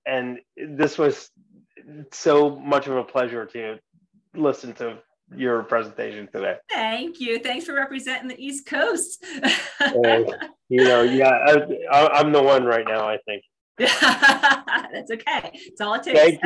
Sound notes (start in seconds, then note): 9.2 laughs; 16.1 laughs